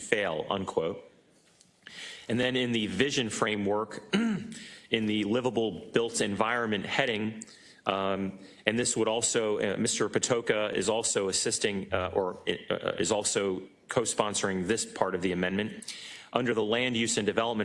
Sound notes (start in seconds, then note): 4.1 cough